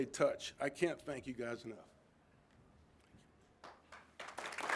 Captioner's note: all clapping